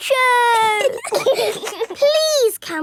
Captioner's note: giggling